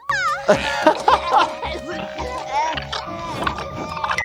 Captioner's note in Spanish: se ríe